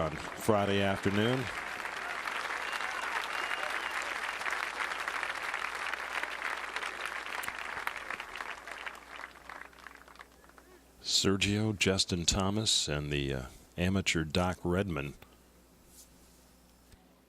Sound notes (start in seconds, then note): 7.6 applause